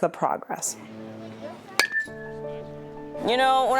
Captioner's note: bat pings